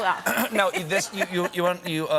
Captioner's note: laughter